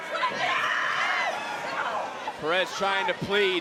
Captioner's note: Cora screams